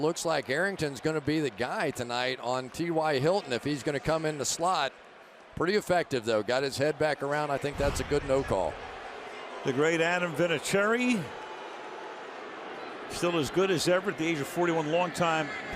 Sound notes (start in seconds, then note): 11.4 booing